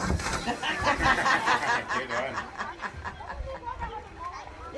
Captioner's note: women laughing